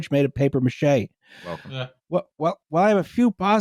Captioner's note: audibly takes a much-needed breath